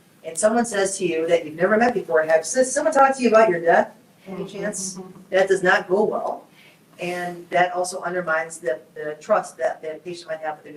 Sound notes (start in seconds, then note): 4.3 group chuckles